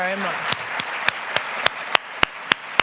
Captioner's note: applause